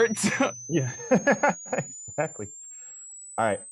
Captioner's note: laughs